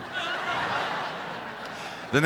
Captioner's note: crowd laughs